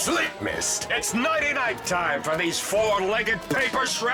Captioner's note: whirring